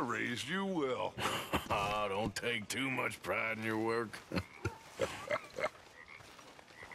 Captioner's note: Dutch laughs in response; laughs